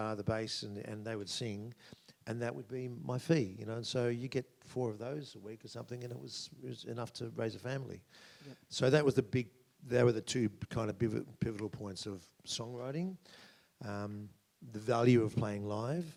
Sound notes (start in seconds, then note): none